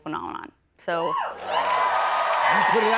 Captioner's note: cheers and applause